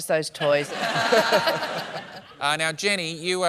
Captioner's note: laughter